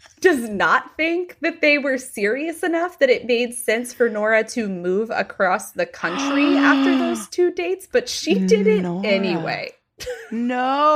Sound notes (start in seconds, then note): 6.0 gasping